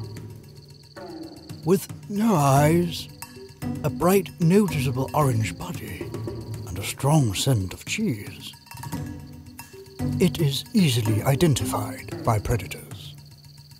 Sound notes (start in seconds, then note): none